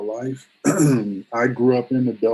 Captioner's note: clears throat